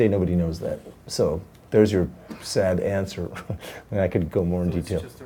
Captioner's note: laughs